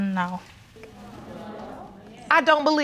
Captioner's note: audience murmuring